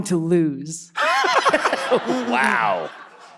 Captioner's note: all laughing